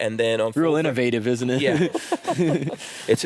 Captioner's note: laughs